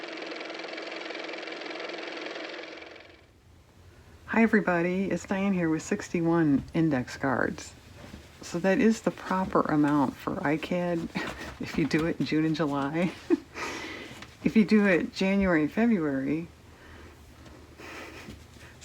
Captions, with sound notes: (car motor) Hi everybody. It's Diane here with 61 index cards. So that is the proper amount for ICAD if you do it in June and July (laughs). If you do it January and February...